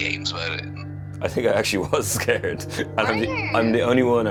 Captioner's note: laughs